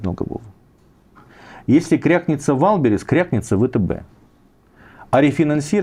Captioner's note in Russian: none